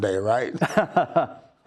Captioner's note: laughter